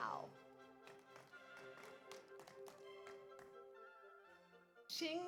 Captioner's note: audience applauds